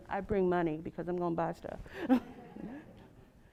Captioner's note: laugh